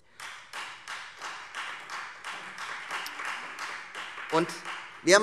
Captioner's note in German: Beifall Freie Demokraten